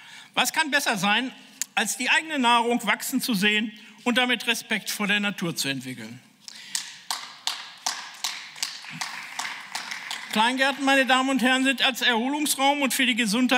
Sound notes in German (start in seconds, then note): 10.3 Beifall